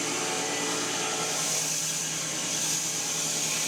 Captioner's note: mill whirring